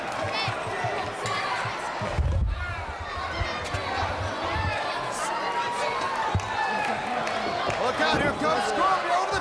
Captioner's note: crowd chatter